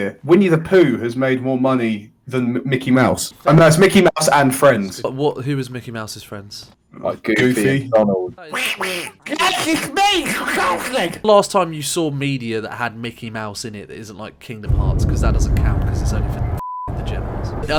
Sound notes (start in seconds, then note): 8.4 duck noises; 8.5 terrible Donald Duck impression